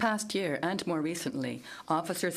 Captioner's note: speaking in French